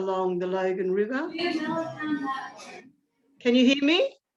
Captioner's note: indistinct background chatter